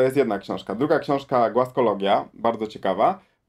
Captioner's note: in Polish